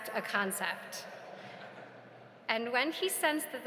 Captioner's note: audience laughs